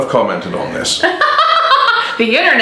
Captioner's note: she laughs